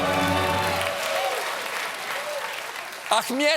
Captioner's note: cheers and applause